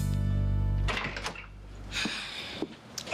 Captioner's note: sigh